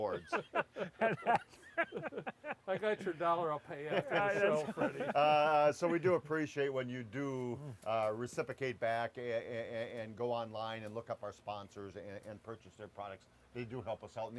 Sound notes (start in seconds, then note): 0.0 laughing; 3.7 laughter